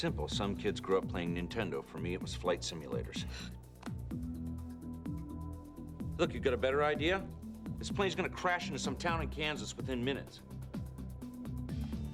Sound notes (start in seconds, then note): none